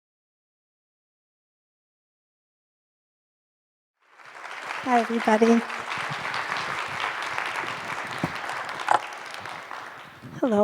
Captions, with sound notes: (audience applauds) - Hi, everybody